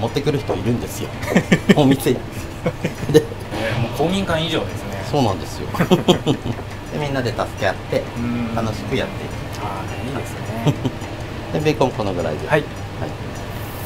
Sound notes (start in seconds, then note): 6.5 laughs